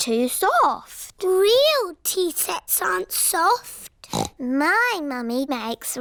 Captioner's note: snorts